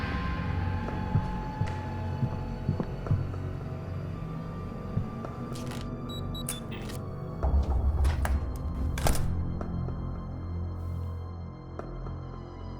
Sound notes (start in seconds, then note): 2.1 suspenseful music; 6.0 beeping; 9.7 suspenseful music